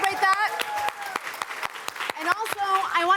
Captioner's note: applause